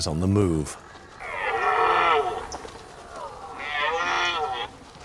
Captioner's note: deer roars